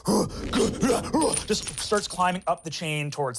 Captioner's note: grunts